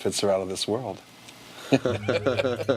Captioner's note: both laugh